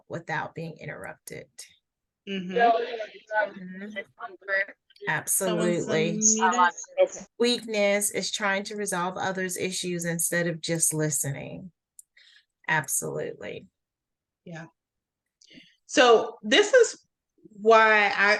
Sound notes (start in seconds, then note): 2.2 audio distorting